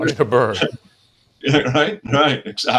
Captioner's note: chuckling